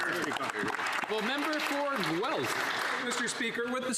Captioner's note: speaking alternate language